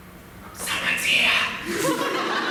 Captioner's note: whispering